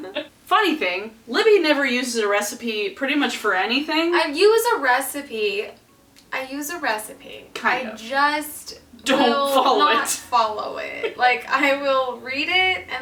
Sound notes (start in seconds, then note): 0.0 laughs; 11.0 laughs